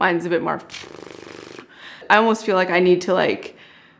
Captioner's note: buzzes